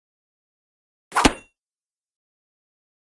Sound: sound of sword

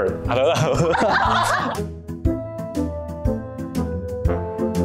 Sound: laughter

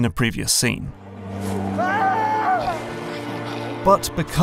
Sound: screams

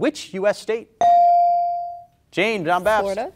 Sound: beep

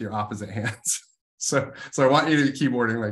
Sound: laugh

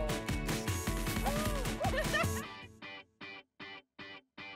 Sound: chuckling

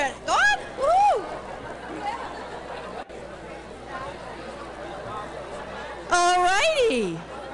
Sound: background chatter

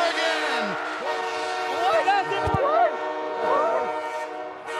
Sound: horn blowing

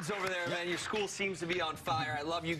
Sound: cheers and applause

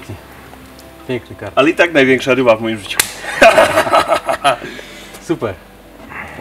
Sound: laughing

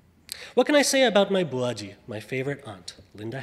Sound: speaks foreign language

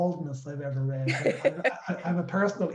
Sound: laughs

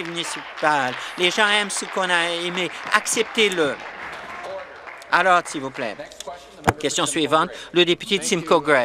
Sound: applause

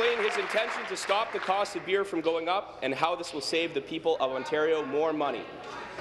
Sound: applause

